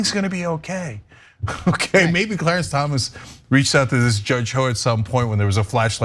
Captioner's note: laugh